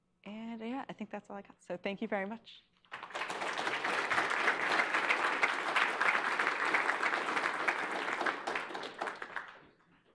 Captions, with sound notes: And yeah, I think that's all I got. So thank you very much. [APPLAUSE]